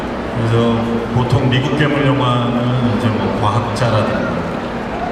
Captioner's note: speaking Korean